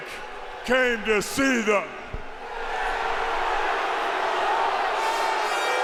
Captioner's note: crowd boos